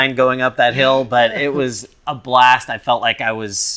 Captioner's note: laughs